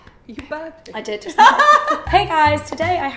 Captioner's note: laughs